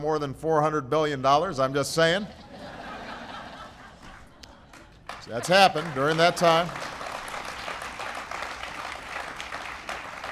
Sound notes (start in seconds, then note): 2.3 laughter; 8.2 applause